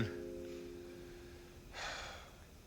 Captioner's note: sighs